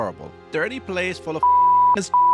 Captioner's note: beep